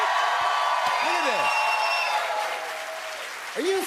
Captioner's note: cheers and applause